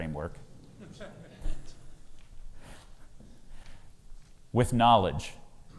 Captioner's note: audience laughs